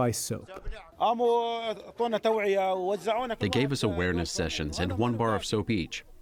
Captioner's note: through translator